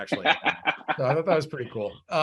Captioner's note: laughs